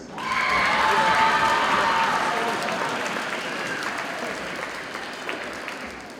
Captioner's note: audience cheers and applauds